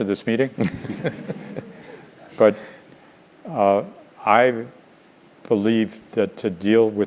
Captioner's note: laugh